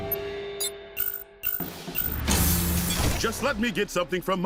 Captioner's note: beeps